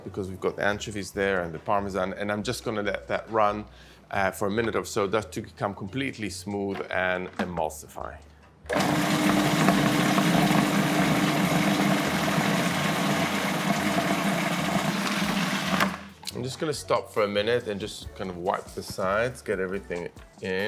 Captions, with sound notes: because we've got anchovies there and the Parmesan. And I'm just gonna let that run for a minute or so, just to become completely smooth and emulsify. (whirring) I'm just gonna stop for a minute and just kind of wipe sides, get everything in.